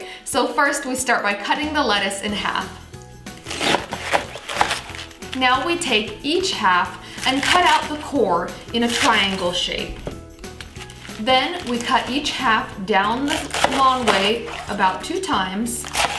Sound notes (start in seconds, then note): 3.3 lettuce crunching